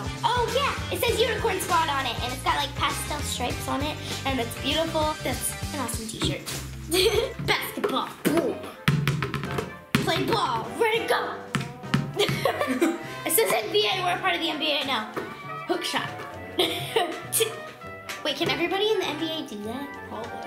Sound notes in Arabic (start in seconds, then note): 6.9 يضحك; 12.1 وكلاهما يضحك; 16.5 يضحك